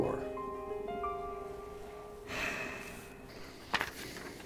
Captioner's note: deep exhale